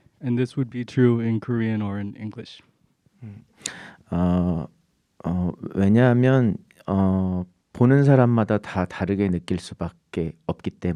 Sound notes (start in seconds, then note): 5.4 speaking in Korean